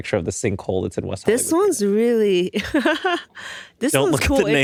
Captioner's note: laughs